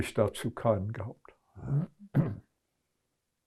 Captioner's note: clears throat